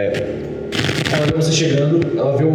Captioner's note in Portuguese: chiado